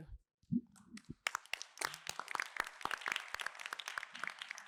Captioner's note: applause